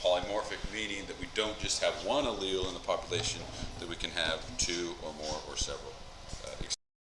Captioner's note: mic cuts out